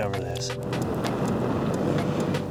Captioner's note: blowing